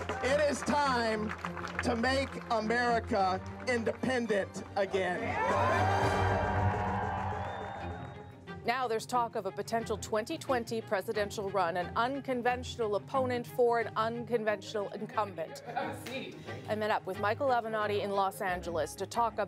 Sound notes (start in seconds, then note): 7.4 cheers and Applause